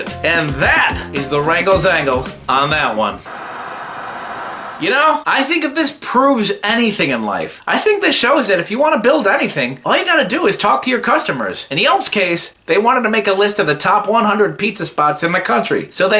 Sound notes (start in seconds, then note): 3.2 TV Static